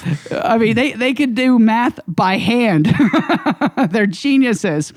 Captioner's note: laughs